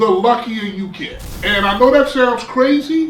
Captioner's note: crashing noise